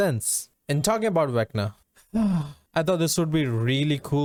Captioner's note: sighs